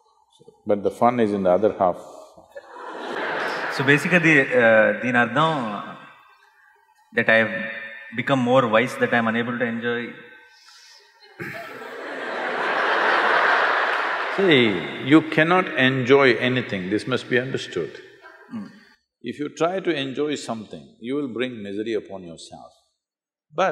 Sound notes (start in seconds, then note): 2.5 laughter; 11.3 laughter